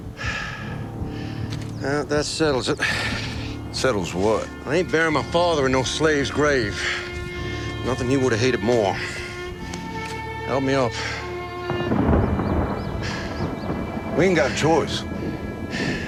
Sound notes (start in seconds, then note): 11.6 thunder rolling